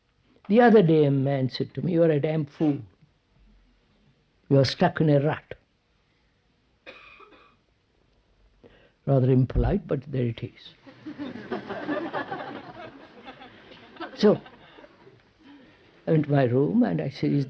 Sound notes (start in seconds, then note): 10.8 laughter